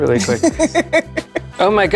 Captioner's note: laughing